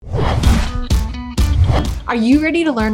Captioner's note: screen whooshing